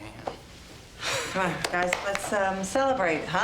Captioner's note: laughs